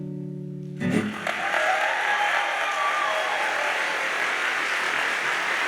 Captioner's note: audience cheers and applauds